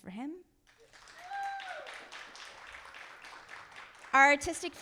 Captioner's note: audience applauding